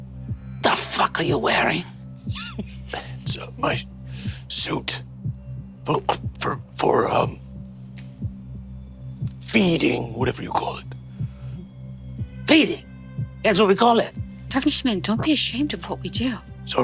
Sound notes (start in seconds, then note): 2.3 Lou chuckles